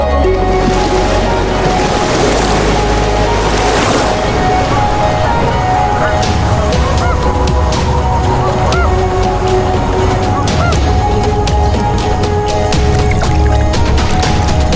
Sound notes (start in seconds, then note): 0.2 wave crashes; 4.2 geese honk; 12.6 water laps